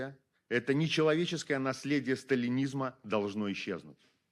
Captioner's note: speaking Belarusian